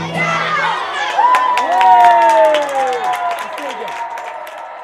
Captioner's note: children cheering and clapping